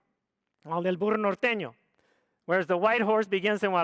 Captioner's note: speaks foreign language